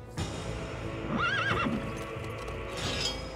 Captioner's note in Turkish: At kişniyor